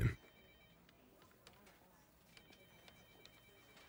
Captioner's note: phone rings